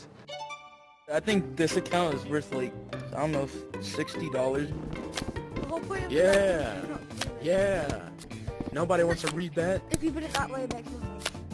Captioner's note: gameplay Sound